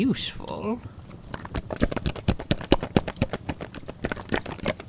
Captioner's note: shakes jar